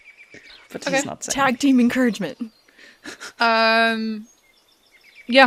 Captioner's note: birdsong continues